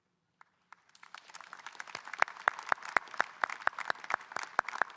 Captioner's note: audience applauding